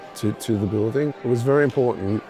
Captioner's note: people chattering